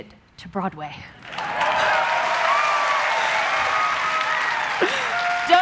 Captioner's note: applause